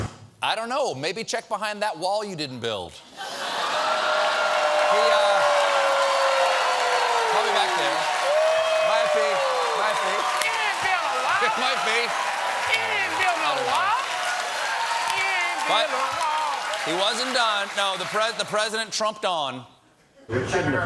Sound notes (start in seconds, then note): 3.1 cheers and applause; 3.1 laughter